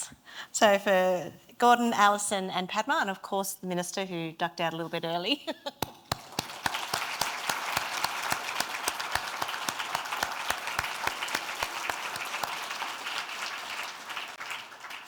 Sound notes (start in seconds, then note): 5.9 laughs; 6.4 everyone applauding